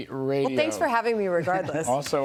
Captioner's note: laughter